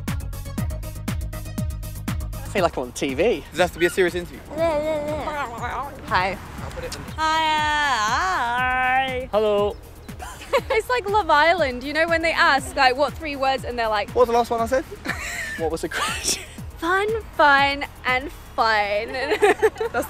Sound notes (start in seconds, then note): 3.4 silly noises; 10.2 laughing